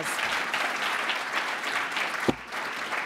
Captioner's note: applause